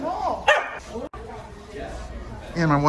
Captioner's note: dog barking